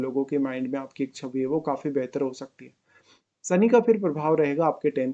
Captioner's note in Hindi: नाक से की जाने वाली आवाज़